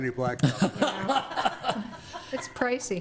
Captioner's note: laughs